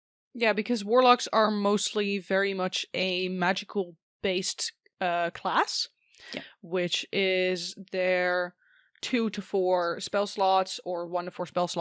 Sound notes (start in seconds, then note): none